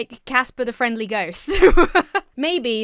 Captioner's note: laughs